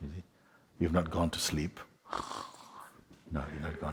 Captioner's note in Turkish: horlama sesi yapar